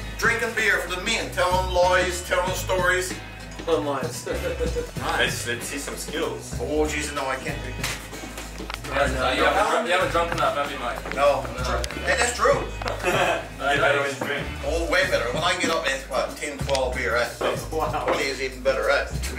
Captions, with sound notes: Drinking beer for the men, telling lies, telling stories. Telling lies. (laughter) Let's see some skills. Oh Jesus, no, I can't right now. You haven't drunk enough, have you, mate? No, and that's true. You're better when you drink? Oh, way better, when I get up at about ten, twelve beers. Twenty is even better.